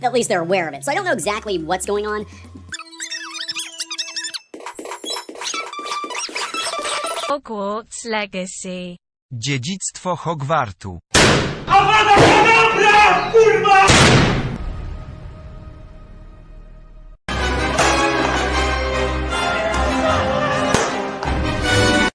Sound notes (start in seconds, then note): 2.4 squeaky gibberish; 4.9 drum roll for dramatic effect